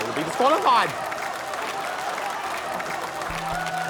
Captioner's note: applause, laughter